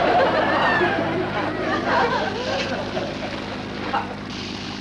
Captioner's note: audience laughter; pan sizzles